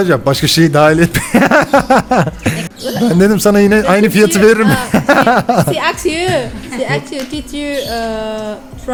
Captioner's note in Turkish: kahkaha